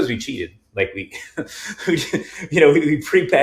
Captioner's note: chuckling